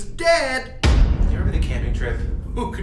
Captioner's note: dramatic bang